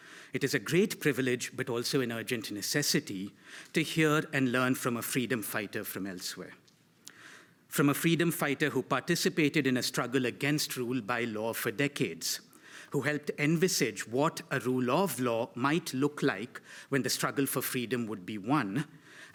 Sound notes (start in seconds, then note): none